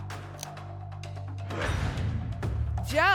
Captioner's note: lock sound